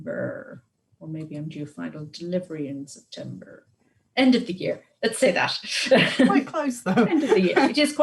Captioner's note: laughs